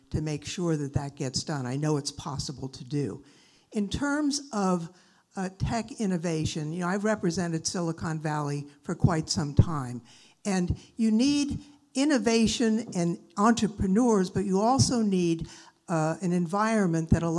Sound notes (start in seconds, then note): none